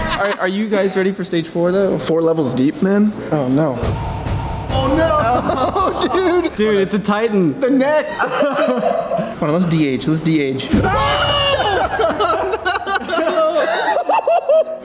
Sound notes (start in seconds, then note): 8.1 laughter; 10.8 yells of shock; 11.2 laughter